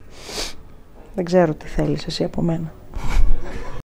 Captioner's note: laughter